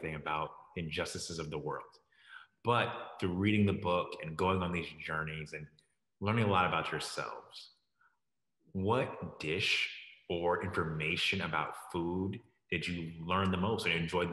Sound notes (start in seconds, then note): none